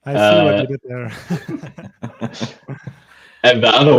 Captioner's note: all laughing